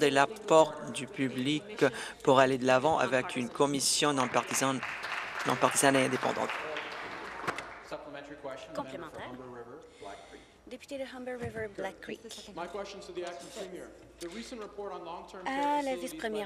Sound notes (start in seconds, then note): 9.3 applause